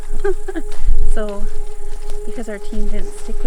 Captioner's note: person laughing